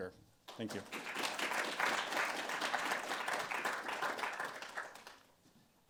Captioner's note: audience applauding